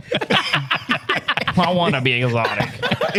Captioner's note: laughing